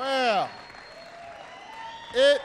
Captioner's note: applause